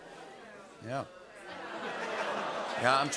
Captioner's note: audience ohs